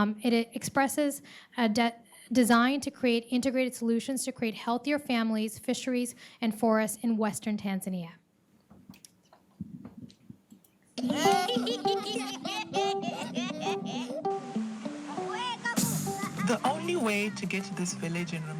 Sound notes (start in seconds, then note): 11.0 children laughing; 13.4 upbeat music